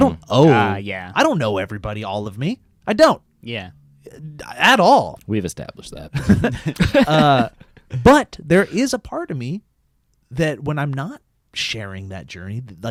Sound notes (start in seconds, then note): 6.1 laugh; 6.1 chuckles